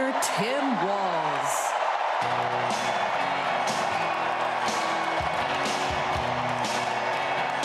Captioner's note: crowd chanting